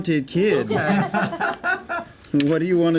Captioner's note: laughter